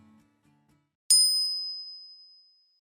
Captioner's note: bell chime